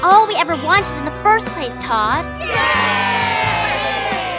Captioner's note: cheering